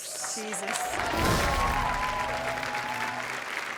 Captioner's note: cheering